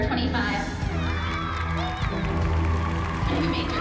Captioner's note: applause